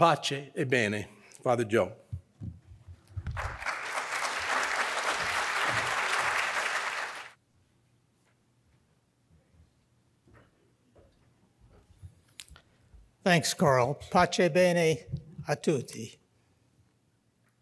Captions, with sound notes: (foreign language) Father Joe. (audience applauds) - Thanks Karl. (foreign language)